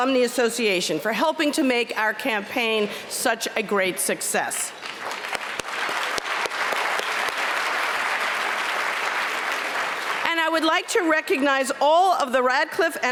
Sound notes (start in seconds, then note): 4.7 applause